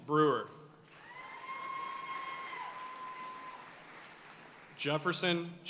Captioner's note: audience cheering and applauding